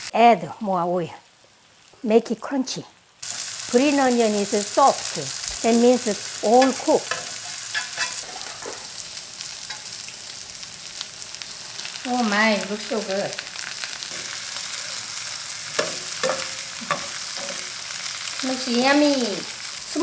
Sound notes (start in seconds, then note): 8.2 pan sizzling; 14.3 pan sizzling